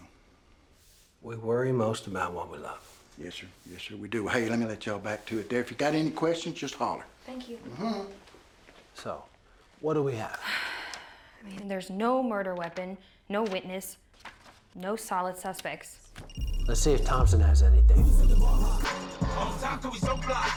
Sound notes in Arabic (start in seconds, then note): 16.2 رنين الهاتف الخليوي; 19.1 رنات الهاتف; 19.1 موسيقى راب عالية